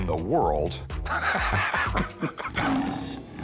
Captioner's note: lion roars; both laugh